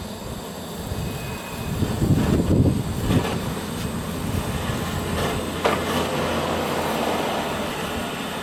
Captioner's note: lots of wind noise, garage doors are open and it's windy outside